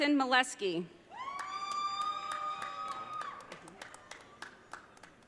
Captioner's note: audience cheering